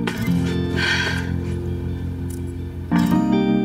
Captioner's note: gentle music; sighs